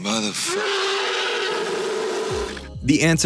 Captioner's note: roars